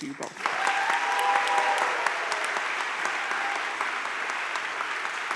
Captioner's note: crowd cheering and applauding